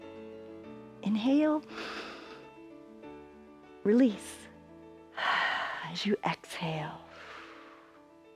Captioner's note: inhales; exhales